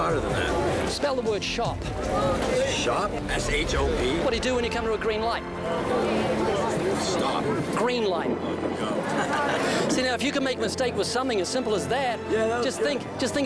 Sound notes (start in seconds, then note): 8.8 laughs